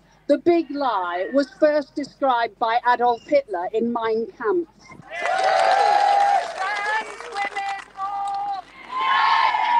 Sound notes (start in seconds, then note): 5.0 crowd cheers